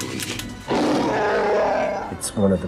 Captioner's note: chewy growl